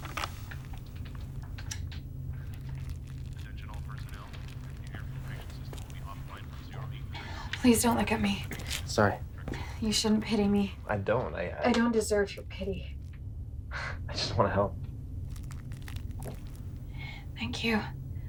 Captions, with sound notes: - [Man On PA] Attention all personnel the air filtration system will be offline from 0830 hours- - Please don't look at me. - Sorry. - You shouldn't pity me. - I don't. - I don't deserve your pity. - I just wanna help. - Thank you.